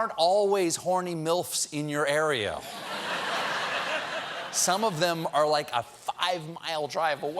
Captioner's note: laughter